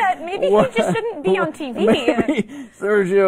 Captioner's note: laughter